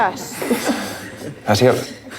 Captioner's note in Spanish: risas